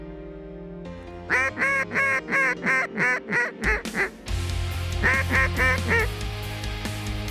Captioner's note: duck calls